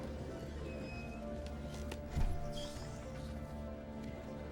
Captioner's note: door creaks